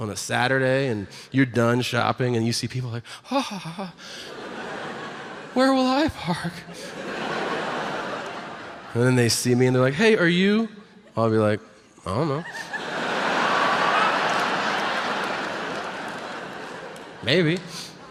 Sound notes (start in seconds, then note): 12.3 audience laughs